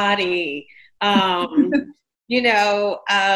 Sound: interviewer laughs

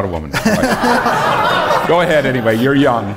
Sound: laughter

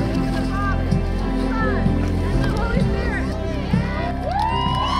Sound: cheering

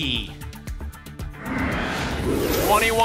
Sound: whoosh

